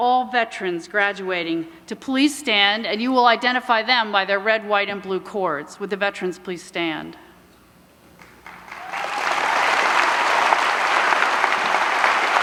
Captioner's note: applause